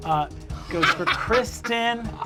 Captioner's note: they laugh